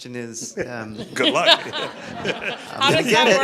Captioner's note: laughter